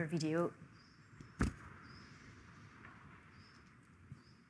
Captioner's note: thud